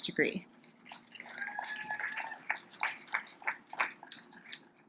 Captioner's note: audience applauds